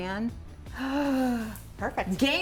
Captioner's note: gasping